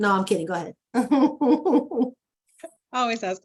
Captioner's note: laughs